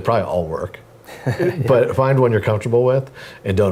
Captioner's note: laugh